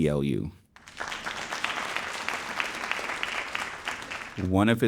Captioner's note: audience applauding